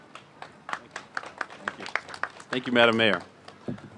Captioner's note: applause